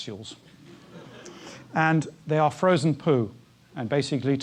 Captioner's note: laugh